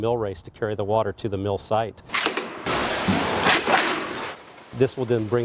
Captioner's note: mill noises